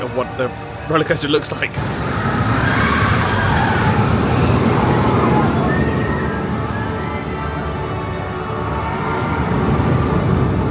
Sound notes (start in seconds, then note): 2.0 guests squealing; 4.5 roller coaster wheels thundering; 7.9 dramatic music